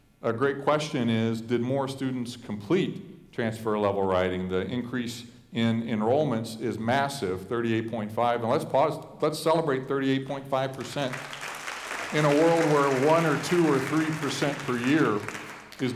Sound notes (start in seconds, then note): 10.8 audience applauding